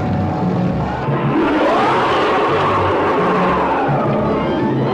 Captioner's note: creature roaring